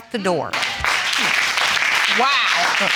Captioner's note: audience applauding